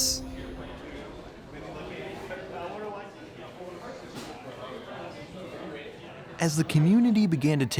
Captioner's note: comic store patrons chattering